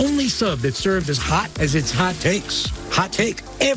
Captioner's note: none